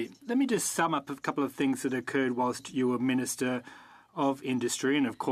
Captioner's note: speaking French